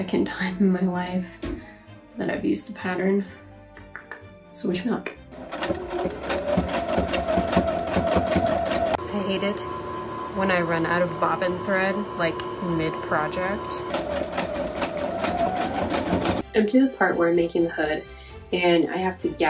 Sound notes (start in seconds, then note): 3.8 anxious teeth chatter; 12.7 sewing machine takes over